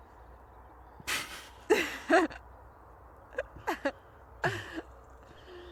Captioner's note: laughs